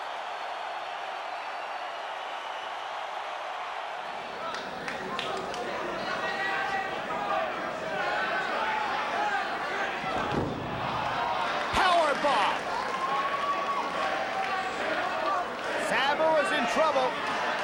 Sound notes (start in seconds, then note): 4.7 spectators applauding; 10.6 spectators exclaiming; 12.7 spectators cheering and applauding